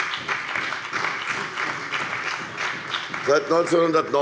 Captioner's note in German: Beifall bei der CDU und dem BÜNDNIS 90/DIE GRÜNEN